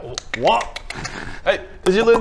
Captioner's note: click click